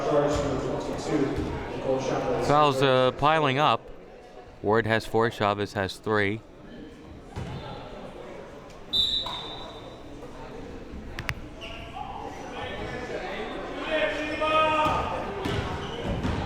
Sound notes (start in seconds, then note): 8.9 whistle blowing